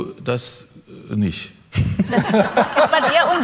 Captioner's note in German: Lachen